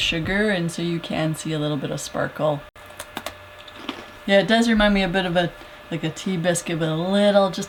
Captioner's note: crunch